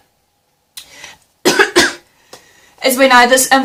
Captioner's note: coughs